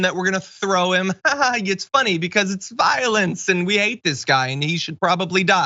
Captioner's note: laugh